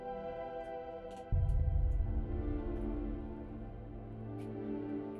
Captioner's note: footsteps